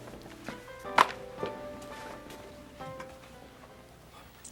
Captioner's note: magazine taps